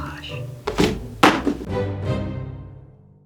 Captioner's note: phone clatters; dramatic music